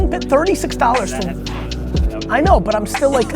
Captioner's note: murmurs